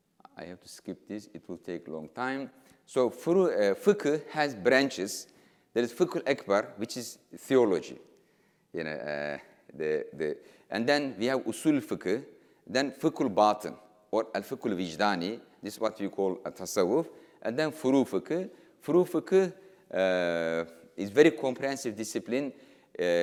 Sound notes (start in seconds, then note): 15.7 speaking in foreign language